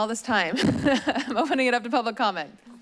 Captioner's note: chuckles